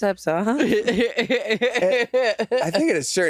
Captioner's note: Jinkx laughing